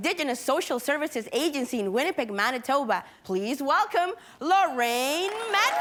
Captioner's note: cheering & applauding